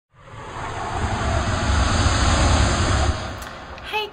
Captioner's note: swoosh